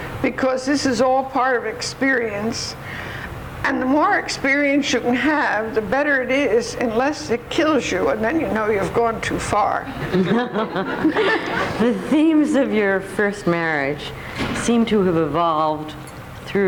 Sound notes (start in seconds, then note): 9.9 audience laughs